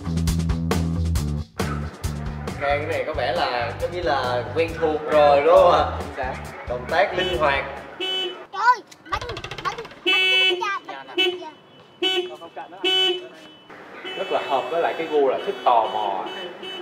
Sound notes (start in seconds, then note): 9.2 very loud horns; 11.6 pushes the horns constantly